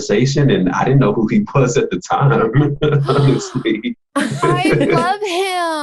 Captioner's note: laughs